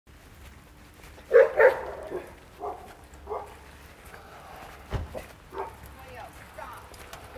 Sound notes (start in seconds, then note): 1.2 dogs barking; 4.9 car door closing